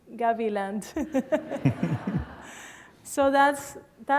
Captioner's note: laughter